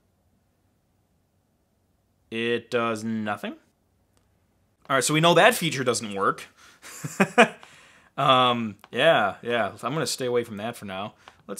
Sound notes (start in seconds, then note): 6.9 laughing